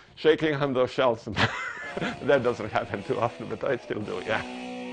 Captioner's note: laughing